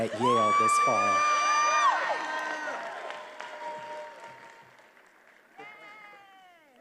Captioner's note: attendees applauding and cheering